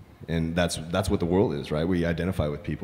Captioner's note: none